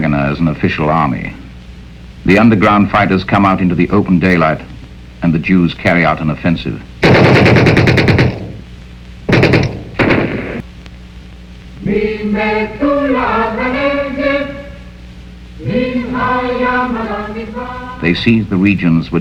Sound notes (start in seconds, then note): 7.0 machine gun firing; 12.1 singing in foreign language